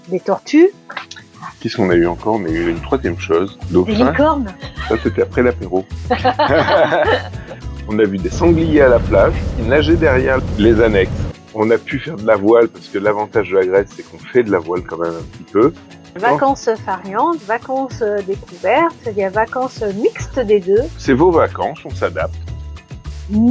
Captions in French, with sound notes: des tortues. _ Qu'est-ce qu'on a eu encore ? On a eu une troisième chose. Dauphin... _ Des licornes ! _ ça, c'était après l'apéro. [rires] On a vu des sangliers à la plage qui nageaient derrière les annexes. On a pu faire de la voile parce que l'avantage de Grèce, c'est qu'on fait de la voile quand même un petit peu. Vacances farniente, vacances découvertes, il y a vacances mixte des deux. _ C'est vos vacances, on s'adapte.